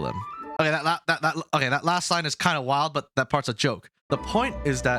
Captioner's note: stammers